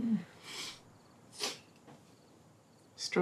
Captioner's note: Kimberly sniffles